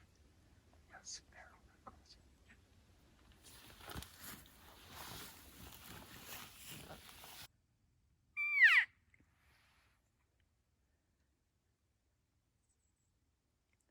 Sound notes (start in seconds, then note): 8.4 cow calls